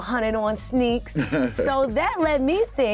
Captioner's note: laughs